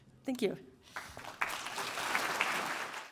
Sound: applause

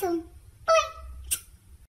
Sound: smooch

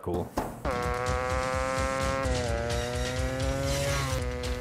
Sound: engine roaring

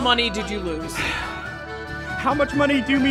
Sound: sigh

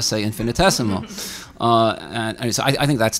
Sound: audience laughing

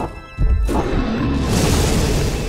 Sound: dragon roars

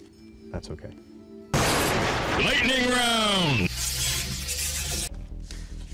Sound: intense male voice

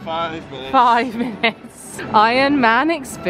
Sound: laughs

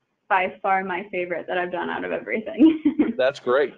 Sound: chuckling

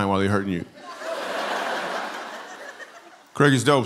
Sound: laughter

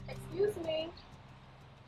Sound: birds chirping

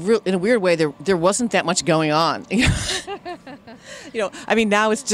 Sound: laughs

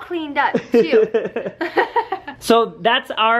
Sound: laughing

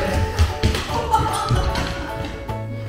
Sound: laughs

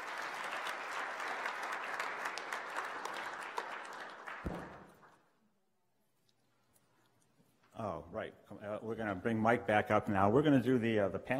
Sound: clapping

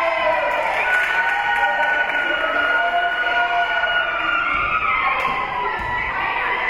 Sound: whistle being blown; spectators cheering; spectators cheering and applauding

